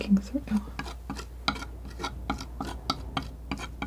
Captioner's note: tapping